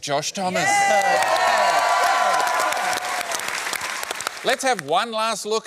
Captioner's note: cheering, applause